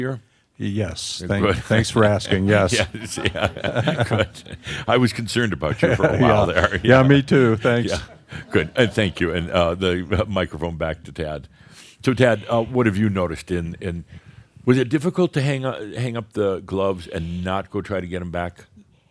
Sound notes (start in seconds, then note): 3.0 they chuckle; 6.3 chuckles